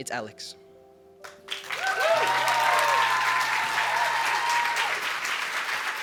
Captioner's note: cheers and applause